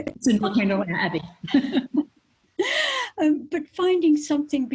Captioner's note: chuckling